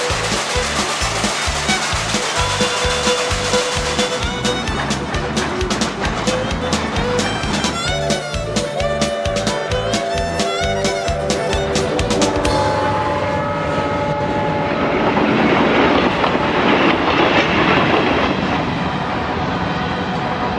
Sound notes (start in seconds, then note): 3.0 train chugging; 12.0 whistle blowing; 17.6 train chugging